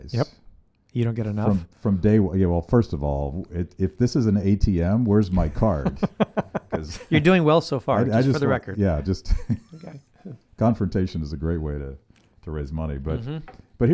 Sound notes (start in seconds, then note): 5.4 laughing